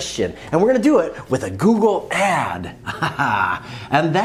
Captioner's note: laughs